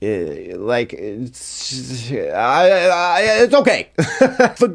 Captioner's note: stuttering